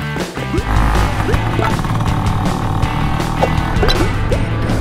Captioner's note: whirring; motorcycle vrooming